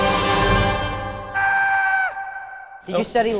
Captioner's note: dramatic music; person screaming